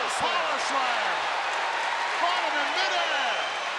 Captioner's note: audience cheering